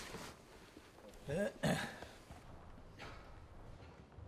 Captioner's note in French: Raclement de gorge